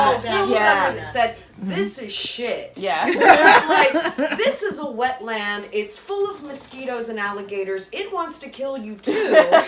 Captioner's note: laughter